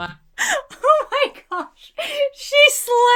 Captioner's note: laughs